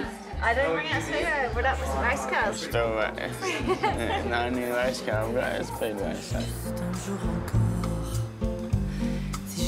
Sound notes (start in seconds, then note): 5.5 laughs; 9.4 french music